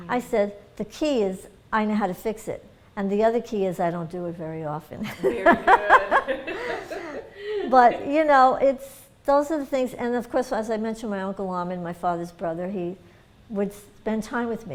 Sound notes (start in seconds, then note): 5.0 laughter